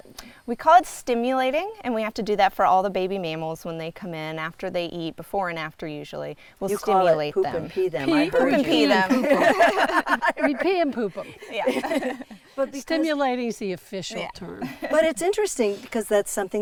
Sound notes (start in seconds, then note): 8.1 both laughing; 11.5 everyone laughing